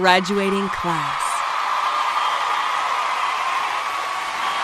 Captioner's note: cheers and applause